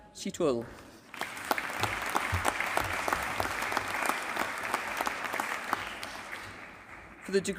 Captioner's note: applause